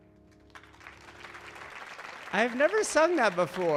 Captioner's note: audience clapping